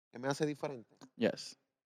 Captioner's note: speaking Spanish